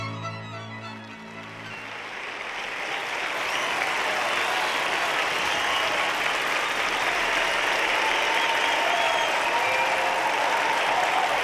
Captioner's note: applause